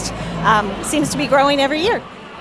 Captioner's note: people chattering